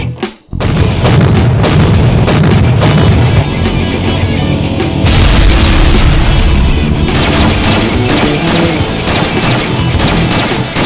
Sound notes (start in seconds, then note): 0.5 steps thudding; 5.0 explosion booms; 7.0 gun blasting